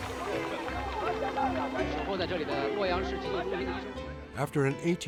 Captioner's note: crowd clapping; people speaking in Chinese